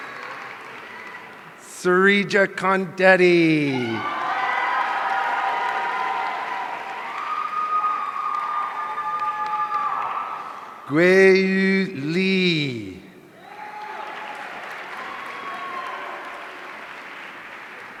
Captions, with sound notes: Sreeja Kondeti. (audience cheering) Guiyu Li. (audience applauding)